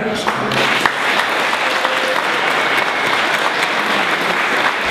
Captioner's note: audience applauding